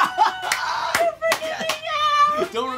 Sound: laughs

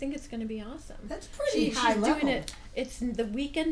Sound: voiceover

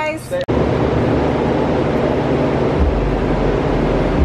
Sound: whirring

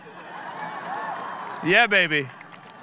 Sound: audience laughing

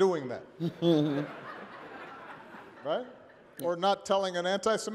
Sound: laughter

